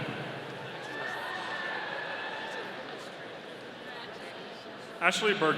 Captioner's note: audience cheering